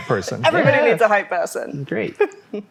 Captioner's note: laughs